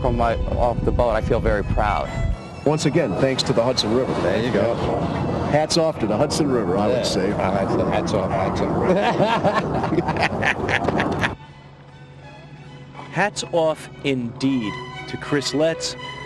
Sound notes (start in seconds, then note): 12.7 laughter